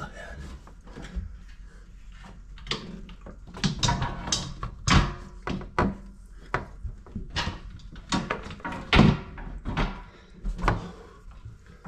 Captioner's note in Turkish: Metal sesleri